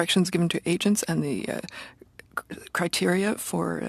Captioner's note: speaking French